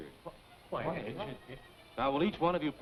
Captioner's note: crowd chattering